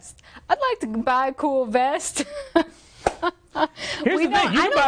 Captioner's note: laughing